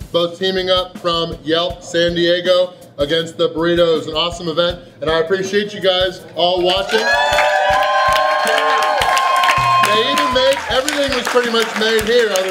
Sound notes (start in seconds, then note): 6.8 applause